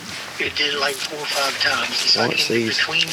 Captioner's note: voice On Walkie